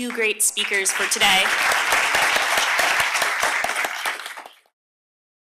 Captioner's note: applause